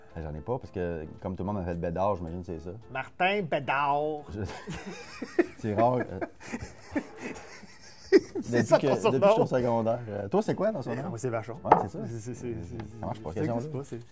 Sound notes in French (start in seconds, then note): 4.4 rire